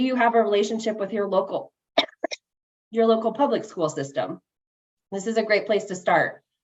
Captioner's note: coughs